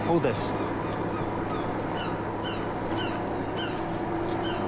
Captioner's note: gulls calling